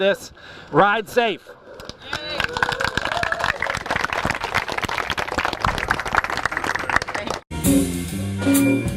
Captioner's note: applause